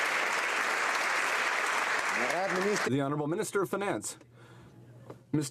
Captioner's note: some Applause